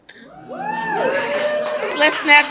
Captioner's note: audience cheers